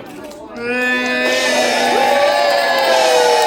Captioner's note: cheering and Applause